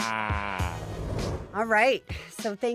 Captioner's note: scene whooshing